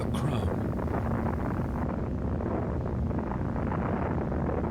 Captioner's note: bomb rumbling